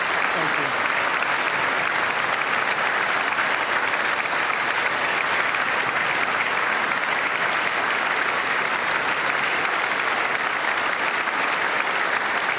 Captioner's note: applause